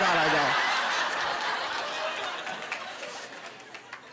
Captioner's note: laughter